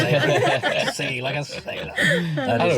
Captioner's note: they all laugh